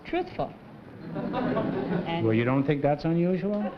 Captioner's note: laughter